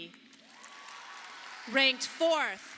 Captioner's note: audience applauding